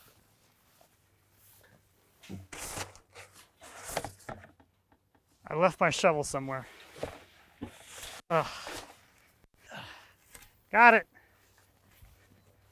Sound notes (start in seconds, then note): 3.2 tubing rustlings; 8.3 groans